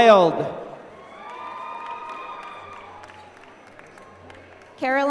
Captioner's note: applause